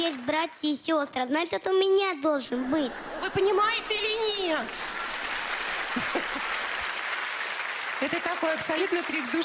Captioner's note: laugh, applause